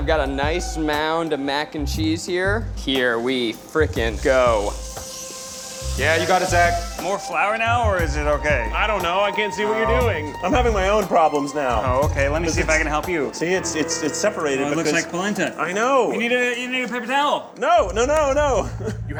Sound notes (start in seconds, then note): 5.2 food sizzles